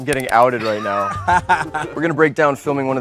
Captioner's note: laughs